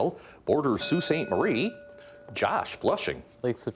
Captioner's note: bell dinging